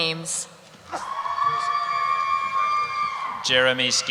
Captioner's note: cheering